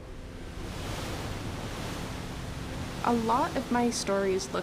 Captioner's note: waves surging